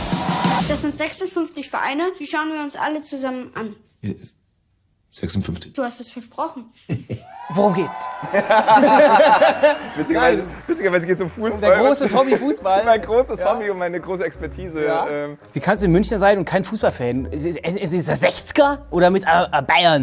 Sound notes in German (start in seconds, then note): 6.5 Lachen; 8.1 Mehrere lachen